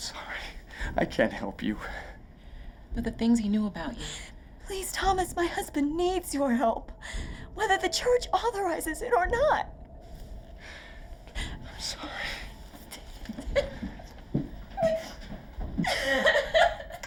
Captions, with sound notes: - I'm sorry. I can't help you. - But the things he knew about you. - Please, Thomas, my husband needs your help. Whether the church authorizes it or not. - I'm sorry. (Catherine crying)